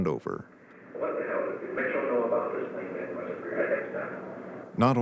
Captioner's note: tapes of conversations playing faintly